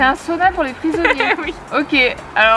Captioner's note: laughs